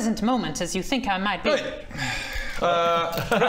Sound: sigh

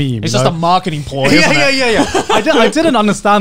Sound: laughing

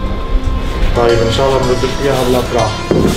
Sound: speaking in Arabic

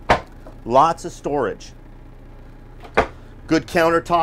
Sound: cupboards closing

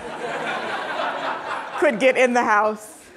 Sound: audience laughing

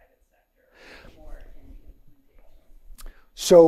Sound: faintly speaking

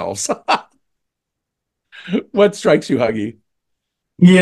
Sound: laugh

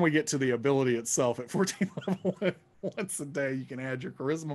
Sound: laughing

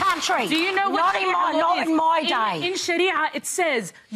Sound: cheering

